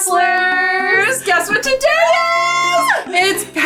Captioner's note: upbeat music; squealing